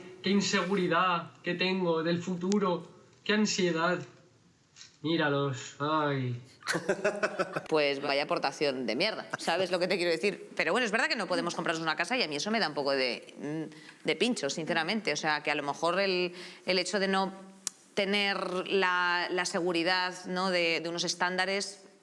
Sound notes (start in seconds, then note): 6.6 laughs